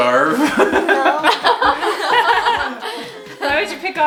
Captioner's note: family laughs